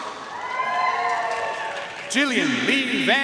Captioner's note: audience cheering and applauding